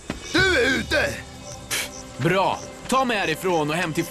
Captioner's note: scoffs